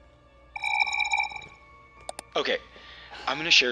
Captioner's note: recorder chirps